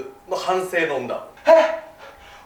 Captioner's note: ahem